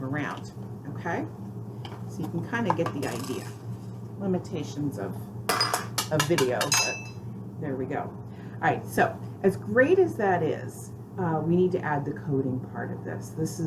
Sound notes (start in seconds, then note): 2.8 marble rolls out of the game board